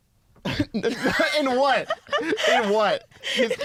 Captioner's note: laughing; laughs